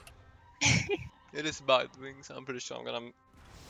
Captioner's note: hah